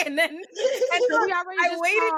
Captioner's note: laughing